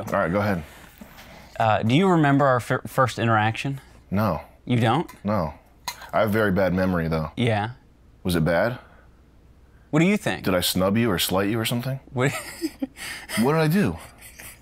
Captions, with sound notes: All right, go ahead. - Do you remember our first interaction? - No. - You don't? - No. I have a very bad memory though. - Yeah? - Was it bad? - What do you think? - Did I snub you or slight you or something? - Wait... (laughs) - What did I do?